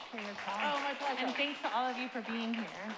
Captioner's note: audience applauds